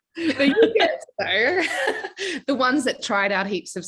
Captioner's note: laughing